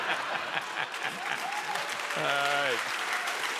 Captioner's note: audience laughs